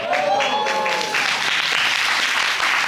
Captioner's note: audience cheering; audience applauding